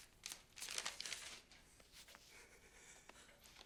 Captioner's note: paper rustling